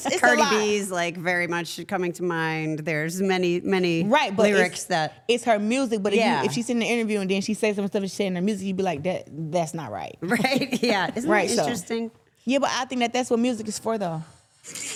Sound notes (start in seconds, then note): 10.3 laughs